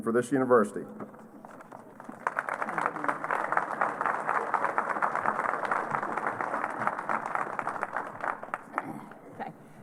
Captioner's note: applause